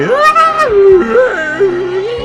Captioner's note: screaming